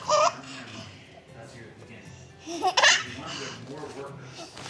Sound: laughing

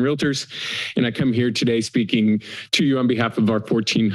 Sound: inhales

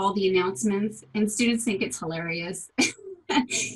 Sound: laughter

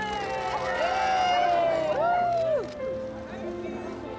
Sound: people cheering

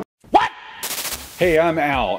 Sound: static buzzing

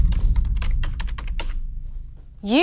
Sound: Andy typing

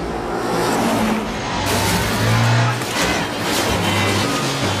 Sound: cars smashing

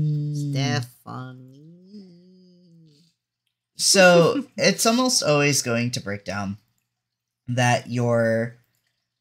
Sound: giggles

